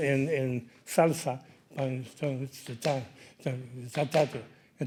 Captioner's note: speaking in Spanish